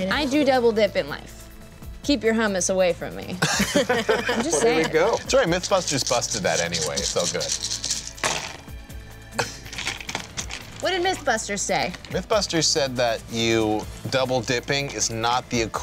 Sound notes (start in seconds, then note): 3.4 laughs